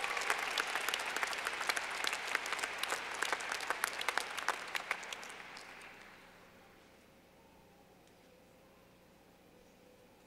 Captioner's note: clapping